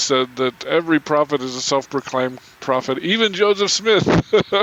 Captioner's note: chuckling